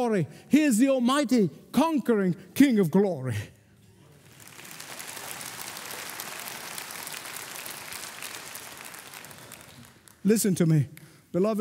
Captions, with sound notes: He is the almighty, conquering King of glory. [applauding] Listen to me, beloved.